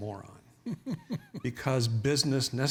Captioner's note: chuckles